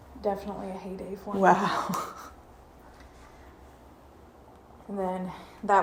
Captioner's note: chuckles